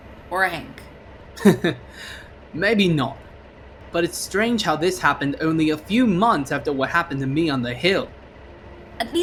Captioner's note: chuckles